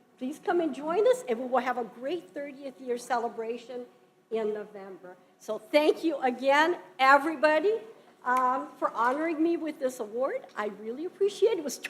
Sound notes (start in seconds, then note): none